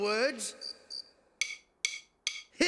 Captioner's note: drum sticks tapping